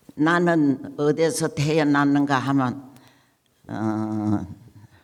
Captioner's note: speaking in foreign language